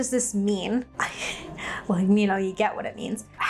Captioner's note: laughing